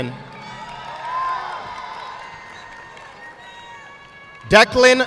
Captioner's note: audience clapping